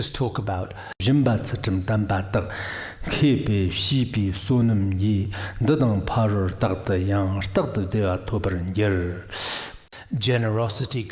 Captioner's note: giving oral transmission in Tibetan